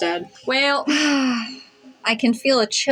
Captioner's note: sigh